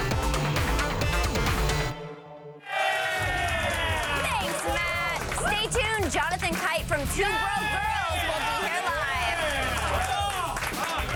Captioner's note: applause